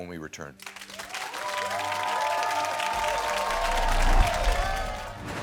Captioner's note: audience clapping